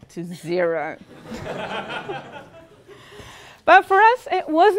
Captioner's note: laugh